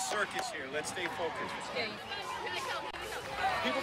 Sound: cheering

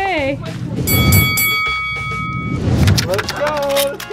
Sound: bell ringing

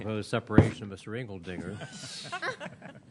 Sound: laughter

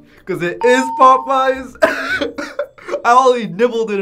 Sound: laughs

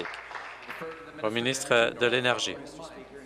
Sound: applause

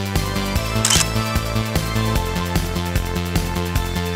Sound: camera clicks

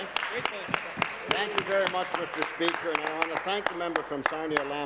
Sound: applause

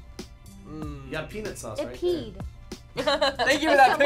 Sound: laughing

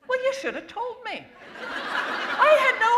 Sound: laughter

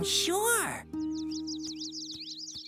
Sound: birds chirp

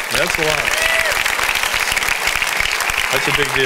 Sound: congregation cheers

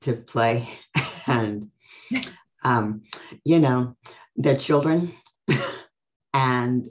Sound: laughs

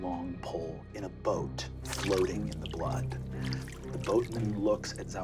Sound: water splashing

